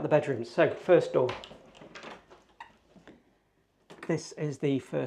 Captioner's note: door clunking